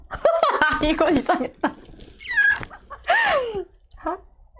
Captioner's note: laughing